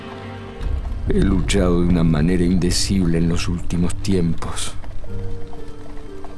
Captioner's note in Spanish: Voz de hombre